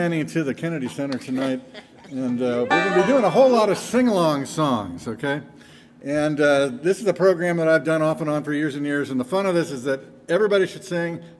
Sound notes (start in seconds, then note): 0.9 band member chuckles